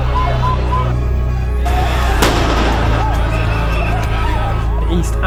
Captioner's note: crowd yelling; gunshots; crowd yelling